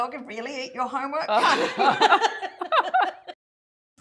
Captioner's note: laughs